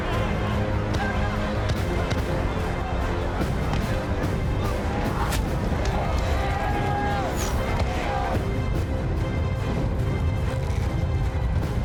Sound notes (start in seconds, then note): 1.0 gunshots; 4.4 clamoring